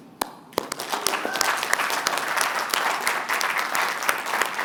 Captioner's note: applause